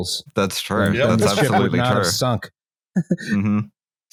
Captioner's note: laughs